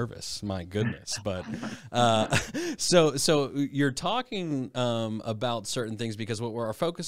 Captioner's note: chuckles